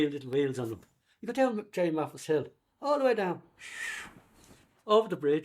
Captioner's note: makes whistling sound of trolley descending